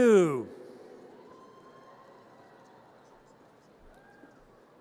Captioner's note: audience cheers